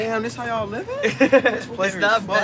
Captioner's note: laughs